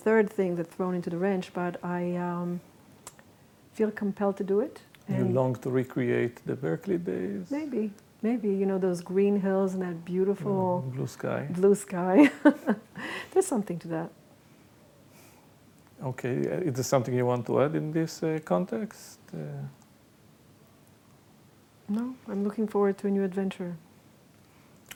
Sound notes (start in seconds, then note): 12.2 laughs